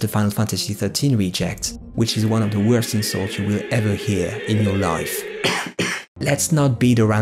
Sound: clear throat

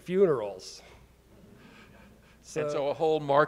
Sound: audience chuckling

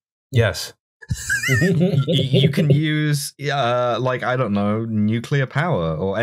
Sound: laughter

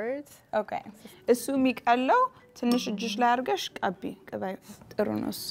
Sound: speaking Amharic

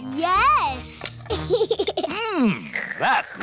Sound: giggles

